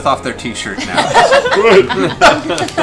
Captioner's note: laughter